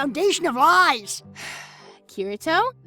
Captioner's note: Asuna sighs